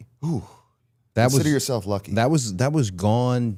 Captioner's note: exhales